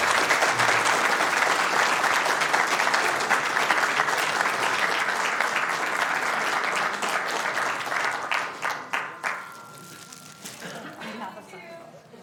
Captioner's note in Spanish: aplausos